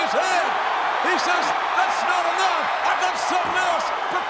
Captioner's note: audience cheering